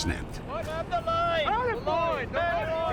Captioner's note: shouting orders